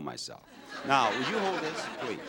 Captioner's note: audience laughs